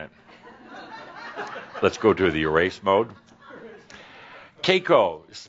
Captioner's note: more chuckles